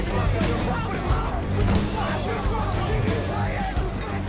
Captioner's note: all yelling